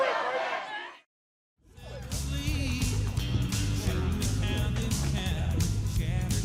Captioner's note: fans chanting